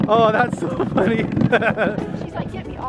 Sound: laughs

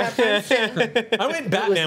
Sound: group laughs

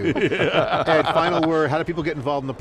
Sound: laughing

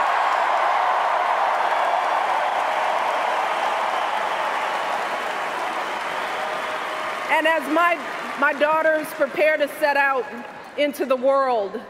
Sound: cheers, applause

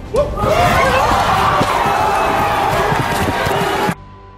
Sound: audience shouts

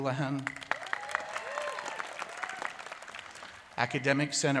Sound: cheers and applause

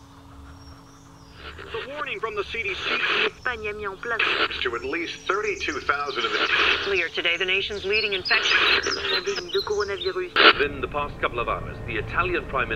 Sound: coronavirus News Bulletins - On Scrambled Radio

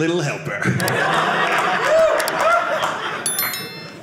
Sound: audience laughing

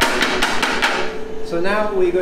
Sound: tapping mold

